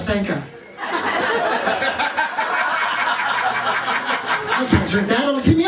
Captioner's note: laughter